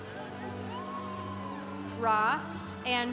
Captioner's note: congregation cheering